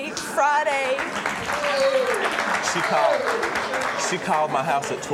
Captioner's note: audience applauding